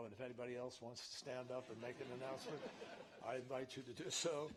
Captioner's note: laughter